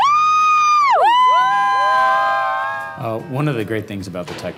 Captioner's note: cheering